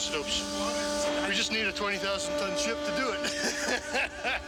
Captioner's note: laughs